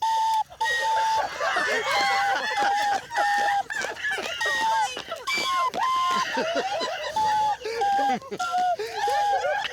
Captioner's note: playing on recorder; laughter; playing on recorder